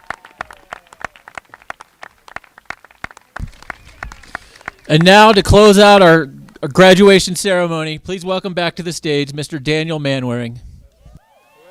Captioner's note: applause